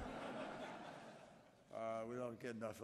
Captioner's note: laughter